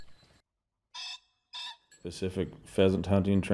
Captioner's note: bird call squeaking